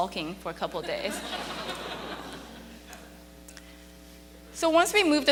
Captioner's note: audience laughing